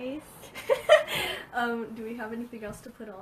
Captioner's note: laughs